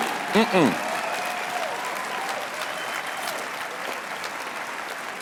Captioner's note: applause